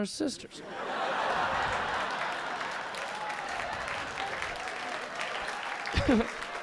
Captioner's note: audience laughing; audience clapping